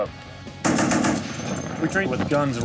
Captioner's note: machine gun firing